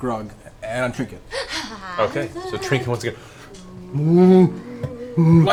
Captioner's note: distressed bear noises